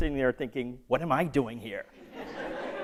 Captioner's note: laughter